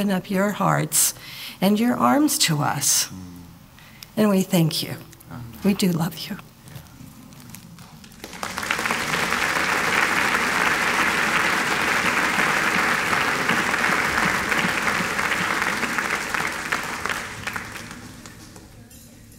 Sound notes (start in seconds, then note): 8.3 applause